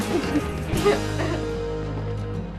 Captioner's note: CHUCKLlNG